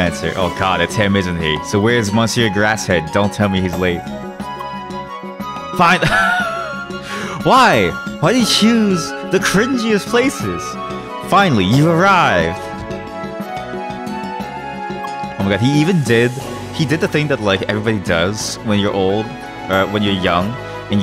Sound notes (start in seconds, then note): 5.9 laughs